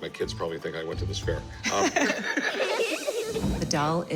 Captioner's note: both laugh